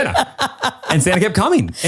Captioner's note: laughs